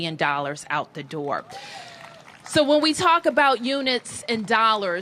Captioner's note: cheers and applause